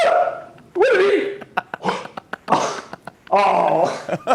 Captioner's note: gasps